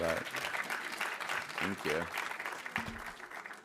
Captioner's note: audience applauding